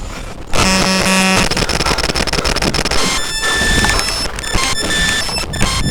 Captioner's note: camcorder rustles; audio distortion increasing in volume; loud audio distortion